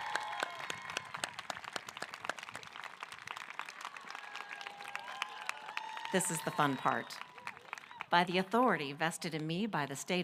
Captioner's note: applause